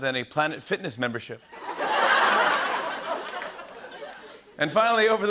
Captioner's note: laughter